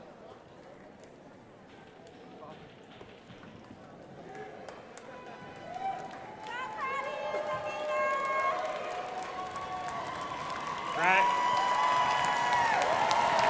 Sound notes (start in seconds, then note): 5.1 crowd applauding